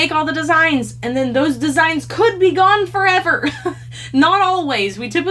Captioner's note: laughs